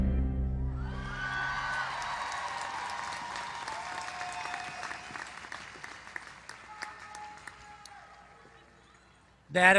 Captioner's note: applause